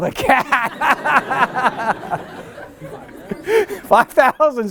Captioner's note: laughter